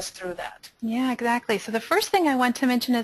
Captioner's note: voiceover